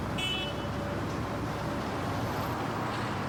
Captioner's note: horn honks